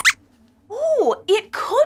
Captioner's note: squeaks squeaks